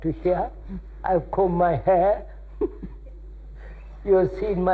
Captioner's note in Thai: หัวเราะ